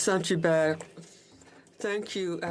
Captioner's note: speaking in French